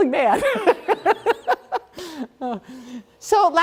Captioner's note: laughter